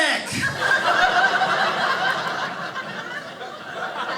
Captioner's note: audience laughing